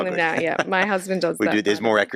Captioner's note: laughs